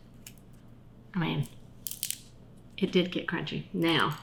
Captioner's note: carrot bacon crunching